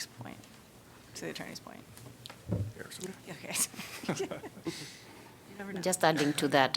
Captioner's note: laughter